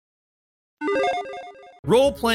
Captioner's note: logo chiming